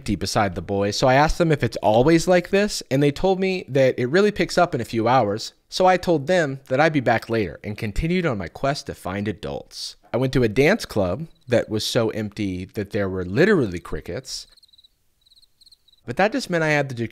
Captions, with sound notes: besides the boys, so I asked them if it's always like this, and they told me that it really picks up in a few hours, so I told them that I'd be back later, and continued on my quest to find adults. I went to a dance club that was so empty that there were literally crickets. [crickets chirping] But that just meant I had